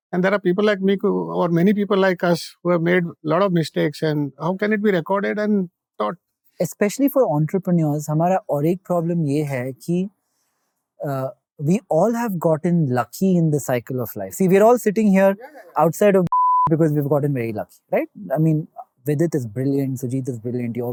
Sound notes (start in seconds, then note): 11.4 in English